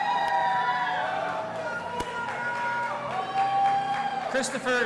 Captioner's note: audience applauding and cheering